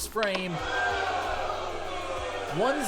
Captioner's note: crowd boos